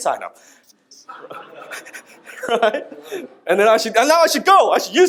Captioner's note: audience laughs